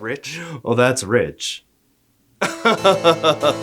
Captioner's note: rich, depressed laughter